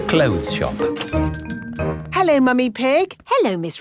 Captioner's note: doorbell chiming